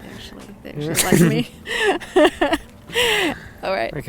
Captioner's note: laughing